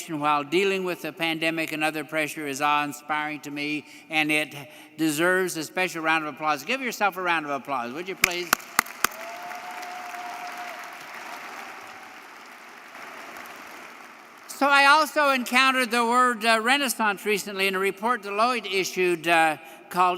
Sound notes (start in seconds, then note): 8.2 audience applauding; 8.3 audience cheering